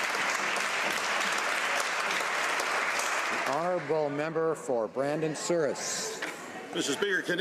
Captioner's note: some Applause